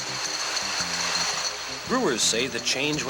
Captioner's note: bottles rattle